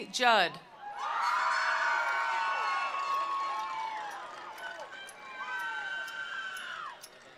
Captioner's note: attendees cheering; attendees applauding